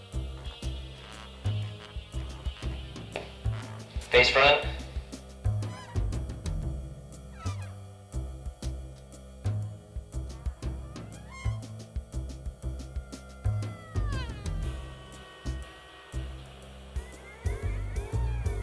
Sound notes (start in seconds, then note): 4.2 over intercom; 7.3 jazzy music